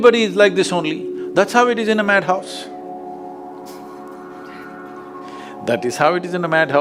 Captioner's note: laughter